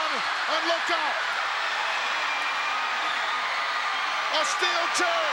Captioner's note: crowd cheering